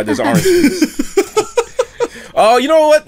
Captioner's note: laughter